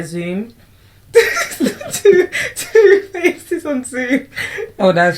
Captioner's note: laughs